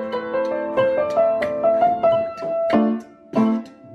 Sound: imitates drumbeat; piano music

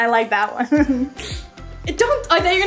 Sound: sniffs

